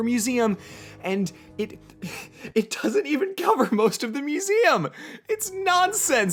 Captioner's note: sigh